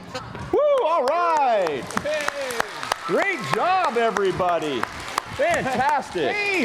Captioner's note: applause